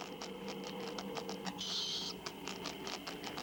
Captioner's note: chittering